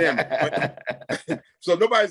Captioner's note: laughing